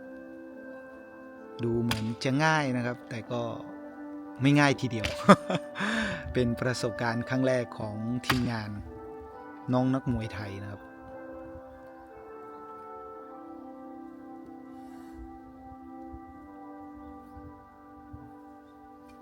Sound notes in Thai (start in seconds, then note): 5.0 เสียงหัวเราะ; 5.7 เสียงหายใจอ้าปากค้าง